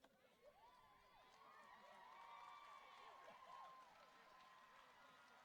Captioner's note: audience applauding